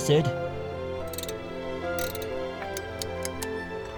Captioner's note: ratchet clicks away